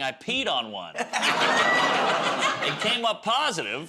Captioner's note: laughter